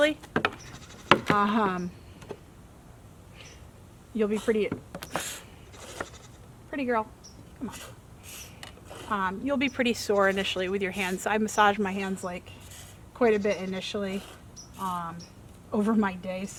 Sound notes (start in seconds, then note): 0.1 goat stomping; 4.4 milk squirting into bucket